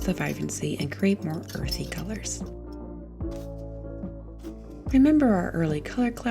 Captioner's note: palette knife scrapes